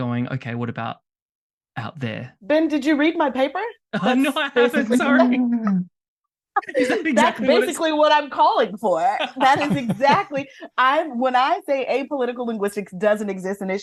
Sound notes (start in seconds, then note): 5.6 laughs; 9.0 laughter